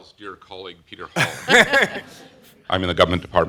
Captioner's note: laughter